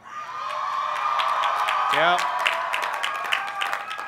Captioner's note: cheers